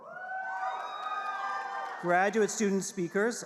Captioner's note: audience cheering